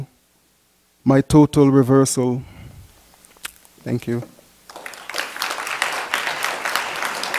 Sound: applause

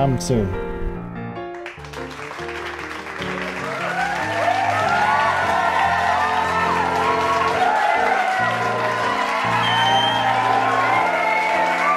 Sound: cheering and clapping

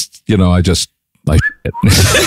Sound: laughing

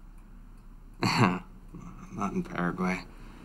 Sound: chuckles

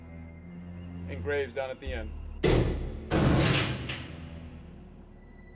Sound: clanking

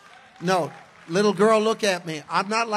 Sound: congregation cheers

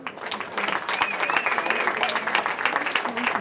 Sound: cheering

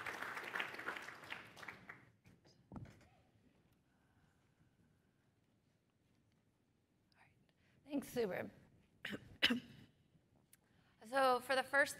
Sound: applause

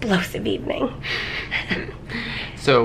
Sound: chuckling

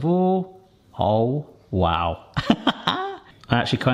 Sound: laughs

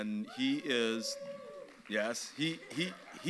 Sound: audience members catcalls

